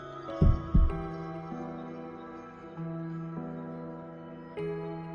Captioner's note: thump